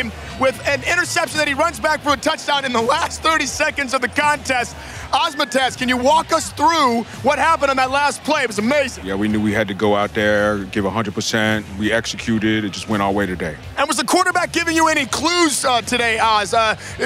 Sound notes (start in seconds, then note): none